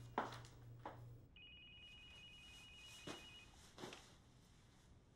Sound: cellphone rings

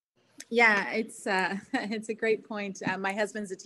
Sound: chuckles

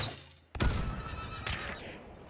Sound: crossbow firing; horse whinnying; gunshot; explosion; horse whinnying

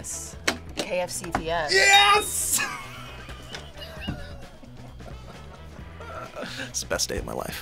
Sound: laughs

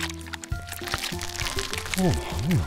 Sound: squelchy egg hole opening sounds

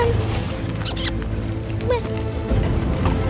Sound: kissing sound

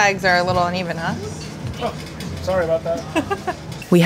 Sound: laughs

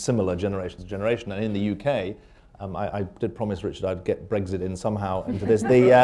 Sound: laughter

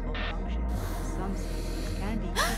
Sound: gasp

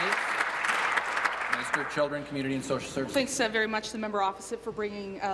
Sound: applause

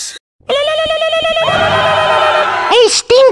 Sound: both scream

